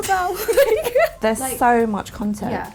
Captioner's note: laughing